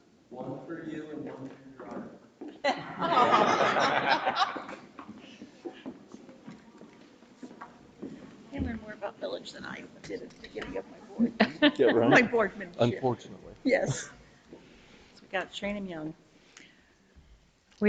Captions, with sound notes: - One for you and one for Your Honor. (board members laughing) - They learned more about millage than I did at the beginning of my board. (board member laughing) - Yeah, right. - My board membership. - Unfortunately. - Yes. We gotta train them young.